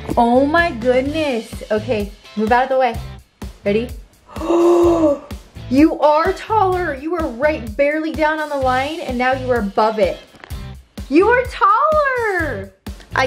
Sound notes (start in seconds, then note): 4.2 gasps